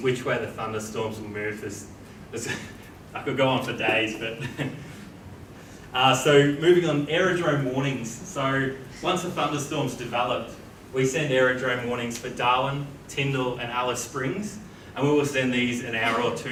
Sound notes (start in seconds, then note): 3.6 chuckles